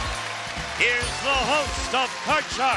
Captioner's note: applause